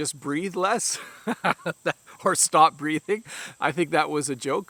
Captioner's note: laughs